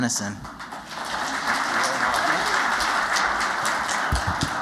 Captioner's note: applause